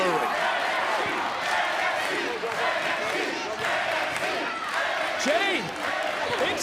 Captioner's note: crowd chanting "nxt, nxt"